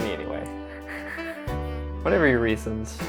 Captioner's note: breathy laughter